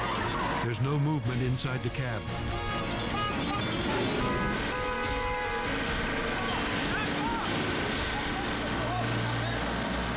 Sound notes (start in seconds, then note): 2.2 horn beeps